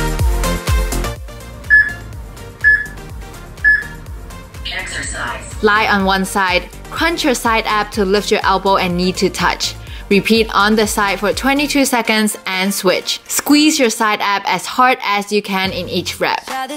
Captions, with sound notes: *peep* *peep* *peep* Lie on one side. Crunch your side ab to lift your elbow and knee to touch. Repeat on this side for 22 seconds and switch. Squeeze your side ab as hard as you can in each rep.